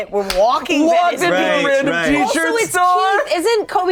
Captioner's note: yelling